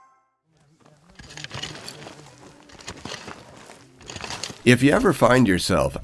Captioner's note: scraping